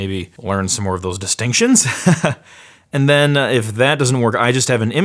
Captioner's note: laughs